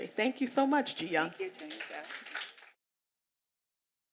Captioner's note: applause